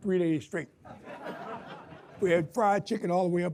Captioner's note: audience laughs